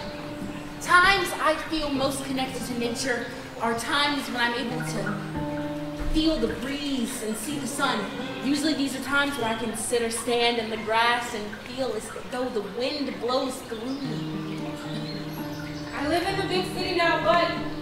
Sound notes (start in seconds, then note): 0.1 instrumental music; 14.5 water running